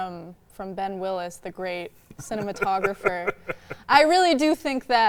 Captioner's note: laughing